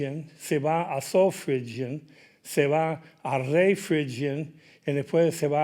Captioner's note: speaking in Spanish